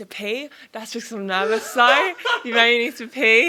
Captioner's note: boyfriend laughs